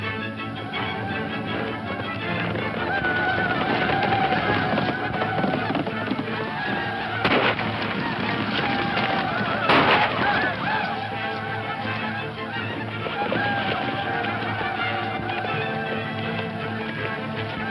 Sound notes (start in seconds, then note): 1.9 hooves thumping; 2.8 Indians screaming; 7.2 gun shots; 13.3 tense classical music continues